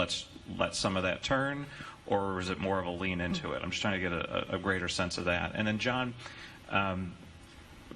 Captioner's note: chuckles